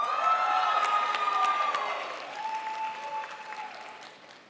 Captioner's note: crowd applauds